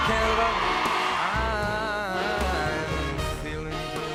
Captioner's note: cheers and Applause